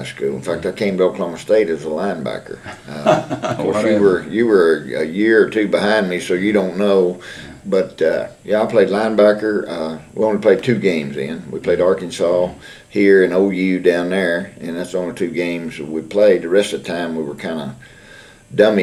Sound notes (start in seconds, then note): 2.6 laughter